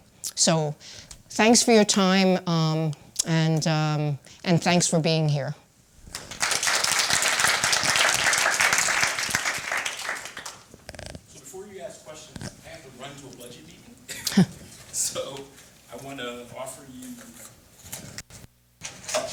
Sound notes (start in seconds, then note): 6.0 applause